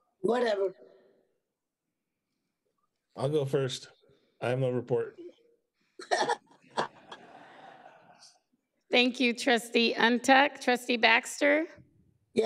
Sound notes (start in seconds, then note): 6.4 and members laughs